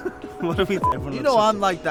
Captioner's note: laugh